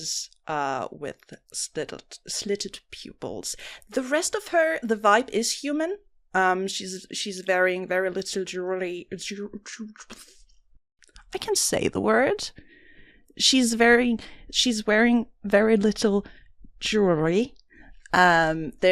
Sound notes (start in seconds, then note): 10.9 sigh